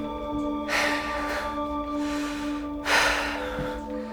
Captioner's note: anxious breathing